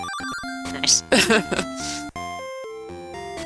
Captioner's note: laughs